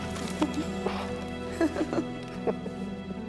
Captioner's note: both laughing